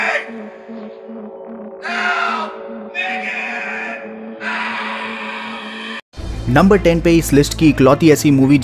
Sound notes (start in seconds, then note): 4.4 screams